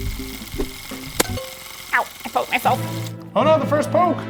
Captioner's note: device clicking; screen beeping